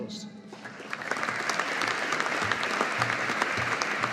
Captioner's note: audience applauding